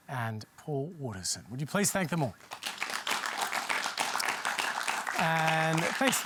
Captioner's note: applause